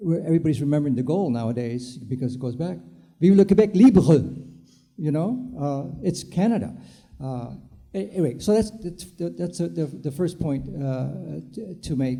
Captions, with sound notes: Everybody's remembering the goal nowadays because it goes back (foreign language) it's Canada. Wait, so that's the first point to make there.